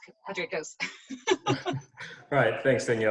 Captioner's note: laughs